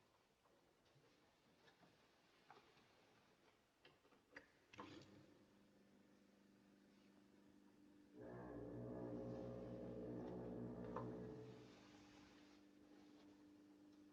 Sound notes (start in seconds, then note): 8.2 foghorn Blows